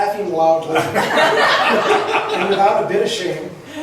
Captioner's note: laughs